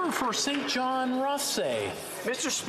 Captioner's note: some Applause